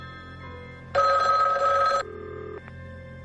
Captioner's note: telephone rings